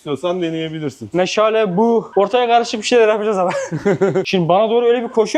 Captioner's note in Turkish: kahkaha